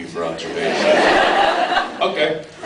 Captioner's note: laughs